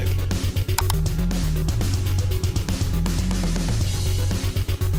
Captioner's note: mouse clicking